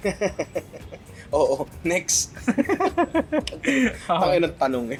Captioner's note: laughs; laughter